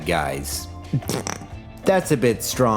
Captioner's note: snickers